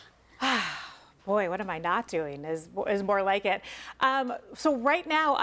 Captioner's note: sighs